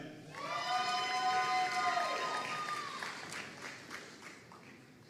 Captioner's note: audience cheering and applauding